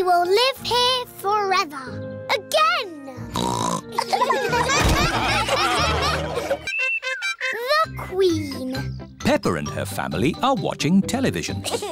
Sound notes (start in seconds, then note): 3.4 snorts; 3.9 laughter